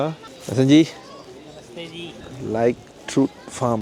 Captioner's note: speaking Nepali